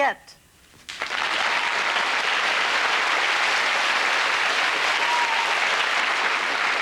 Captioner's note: applause